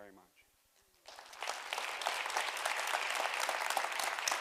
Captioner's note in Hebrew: תשואות